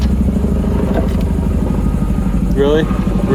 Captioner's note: engine running in distance